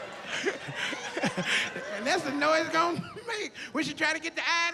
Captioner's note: laughs